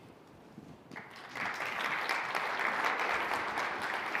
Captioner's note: applause